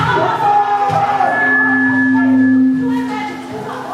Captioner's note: screaming